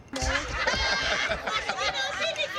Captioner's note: laughter